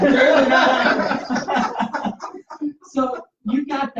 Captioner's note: laughter